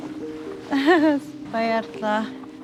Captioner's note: laughs